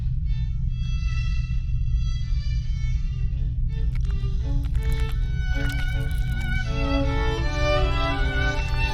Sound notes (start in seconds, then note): 5.6 slivering sounds